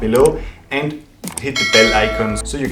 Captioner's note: bell dinging